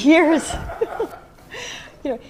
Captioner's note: laughter